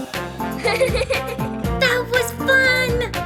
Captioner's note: giggling